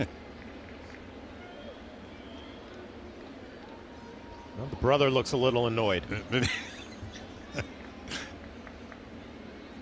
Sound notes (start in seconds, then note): 4.0 laughter